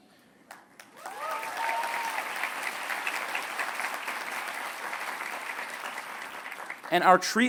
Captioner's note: applause